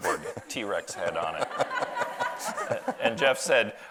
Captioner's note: audience laughs